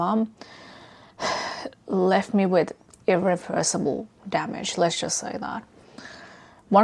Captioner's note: sighs